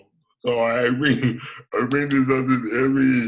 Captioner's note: giggles